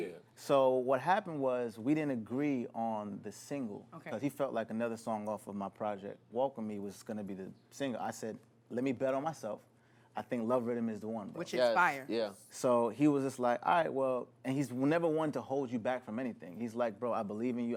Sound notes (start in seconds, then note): none